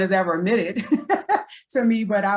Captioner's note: laughs